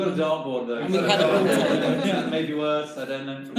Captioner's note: everyone laughs